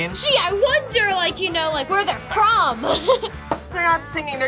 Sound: laughs

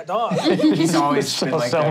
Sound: laughing

